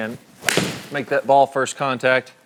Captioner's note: golf club hits golf ball